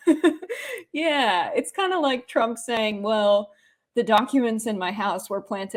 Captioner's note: laugh